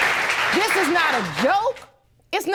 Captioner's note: audience applauding